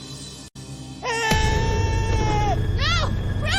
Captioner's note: screams